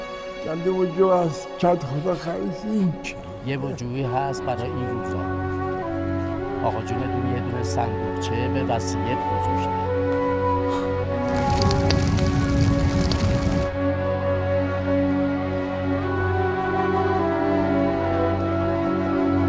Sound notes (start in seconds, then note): 10.6 flames burning; 14.8 dramatic music